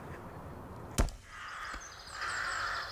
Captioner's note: thuds